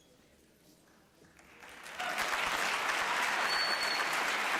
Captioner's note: applause